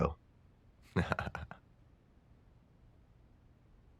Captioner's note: laugh